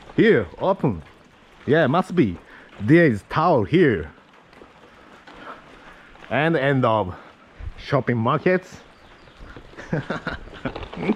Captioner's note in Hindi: हँसी